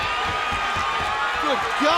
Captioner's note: crowd roaring